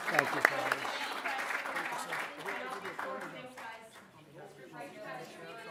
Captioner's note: applause